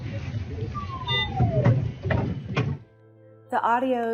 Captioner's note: sound from hospital equipment